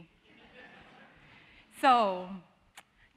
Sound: audience laughing

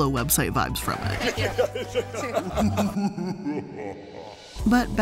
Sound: guffaws

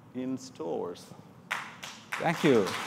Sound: applause

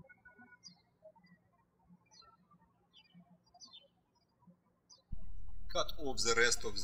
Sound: birds chirping

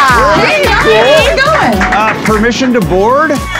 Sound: riders clapping

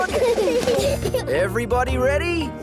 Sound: children giggle

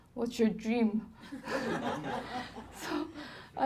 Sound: laughing

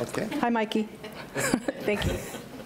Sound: laughs

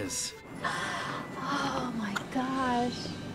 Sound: sigh

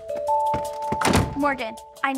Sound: door closes

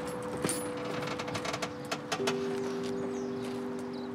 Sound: chair creaks

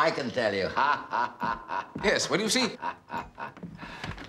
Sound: laughs

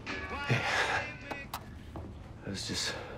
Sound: click, music stops

